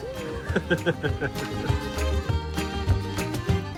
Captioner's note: chuckles